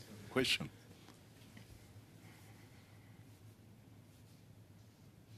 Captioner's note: speaking French